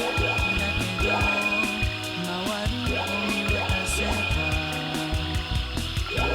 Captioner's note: objects chiming; upbeat goofy music